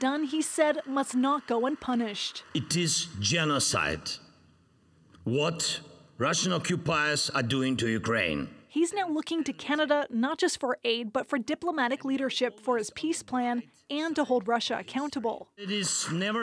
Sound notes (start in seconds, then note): 4.2 applause